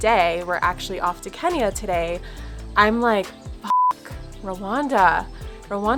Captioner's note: beep